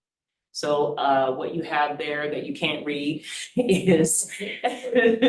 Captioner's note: laughs